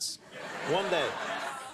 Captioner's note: audience laughs